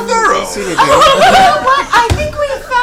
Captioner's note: all laugh